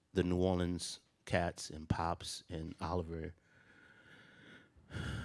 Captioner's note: inhales and exhales